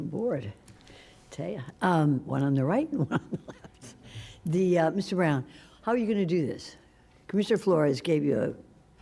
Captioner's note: laughter